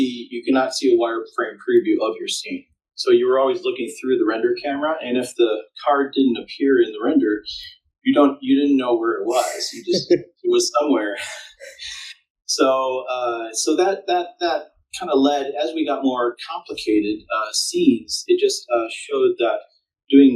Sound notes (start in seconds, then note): 12.5 laughing